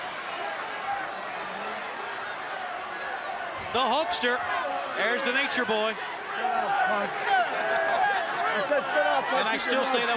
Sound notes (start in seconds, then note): 6.1 crowd chatter